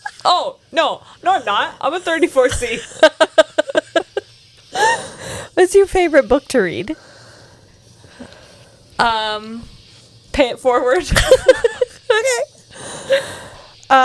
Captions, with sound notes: Oh no, no, I'm not, I'm a 34 C. (panel laughing) - What's you favorite book to read? - "Pay It Forward." - (laughs) Okay.